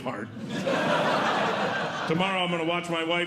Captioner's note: audience Laughing